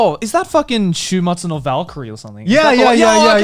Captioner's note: speaking foreign language